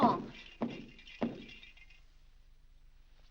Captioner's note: foot stomping; lights rattling